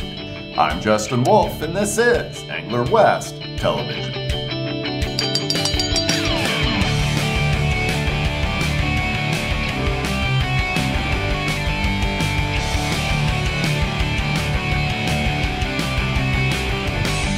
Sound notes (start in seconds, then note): 5.1 bell ringing